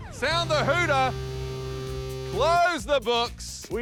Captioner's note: buzz!